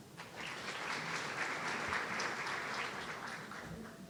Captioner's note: audience applauding